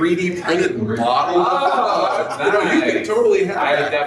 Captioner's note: people laugh